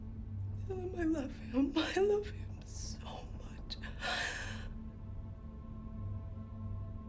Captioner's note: sobs